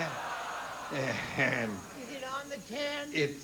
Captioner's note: groans